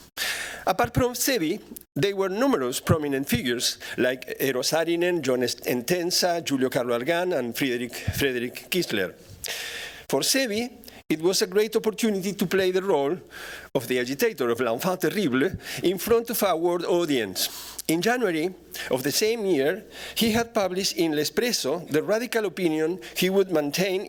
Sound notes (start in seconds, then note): 14.6 non-english speech